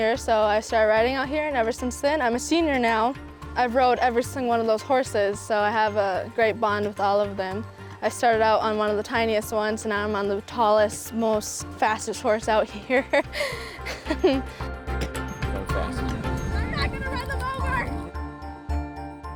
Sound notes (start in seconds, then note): 12.9 chuckles